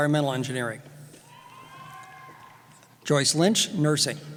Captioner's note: cheering